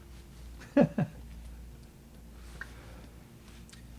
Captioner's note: chuckles